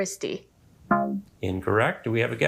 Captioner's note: womp chimes